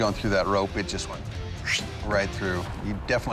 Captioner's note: imitates swishing